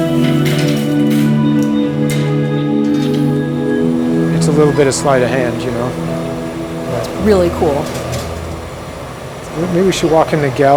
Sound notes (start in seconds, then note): 5.1 clanking